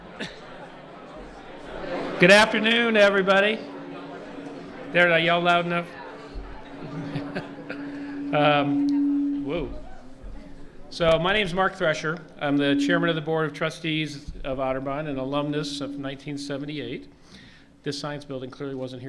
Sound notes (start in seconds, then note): 6.7 microphone feedback noise